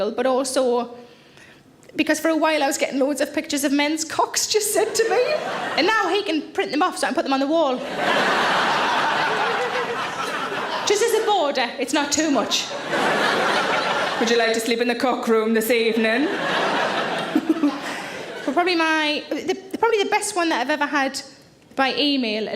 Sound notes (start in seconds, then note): 4.8 audience laugh; 7.8 audience laughs; 17.2 Sarah giggles